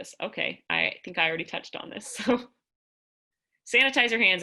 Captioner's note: laughter